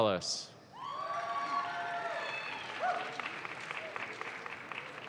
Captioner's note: audience claps